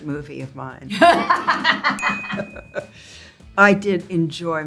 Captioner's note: Zoe laughs